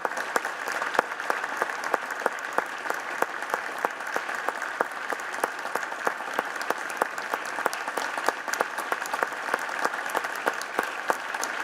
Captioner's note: applause